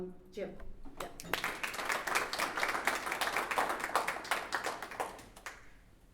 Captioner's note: applause